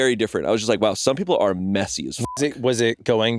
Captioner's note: beeping